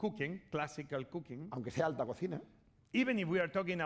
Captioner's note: speaking spanish